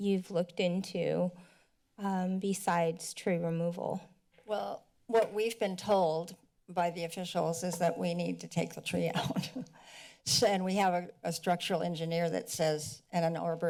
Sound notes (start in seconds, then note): 9.8 laughs